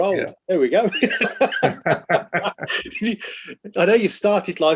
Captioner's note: both laughing